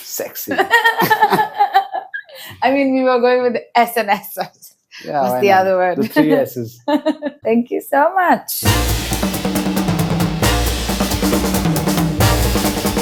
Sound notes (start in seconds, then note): 0.6 laughs; 5.9 laughs; 8.6 upbeat music